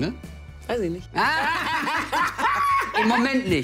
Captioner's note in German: Beide lachen